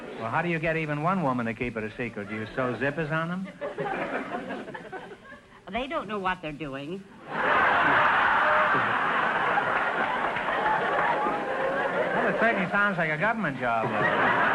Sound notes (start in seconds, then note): 3.5 audience chuckling; 7.2 audience laughter